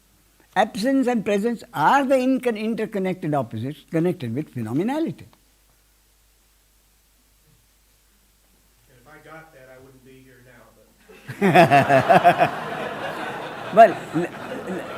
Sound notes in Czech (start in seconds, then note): 11.1 smích